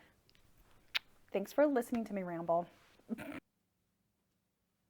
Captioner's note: snorts